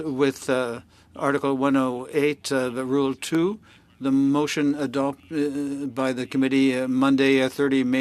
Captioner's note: speaking French